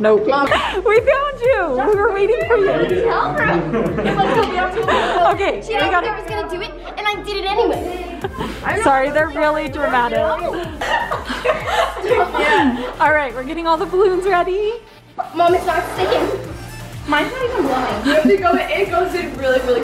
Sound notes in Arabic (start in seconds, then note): 1.8 يضحك; 10.0 يضحك